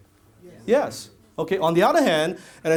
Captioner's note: audience says yes